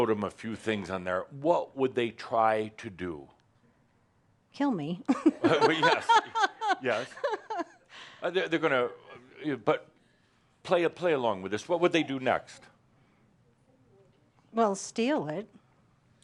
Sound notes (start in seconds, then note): 5.1 she laughs